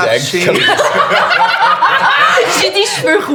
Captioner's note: the group bursts out laughing